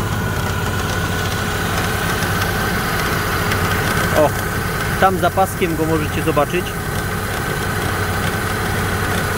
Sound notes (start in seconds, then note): 5.7 tapping tensioner